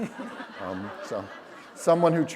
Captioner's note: laughter